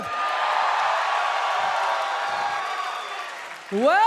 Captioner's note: audience cheering